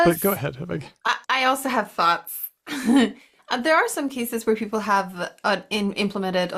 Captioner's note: chuckles